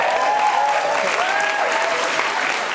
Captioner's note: cheers and applause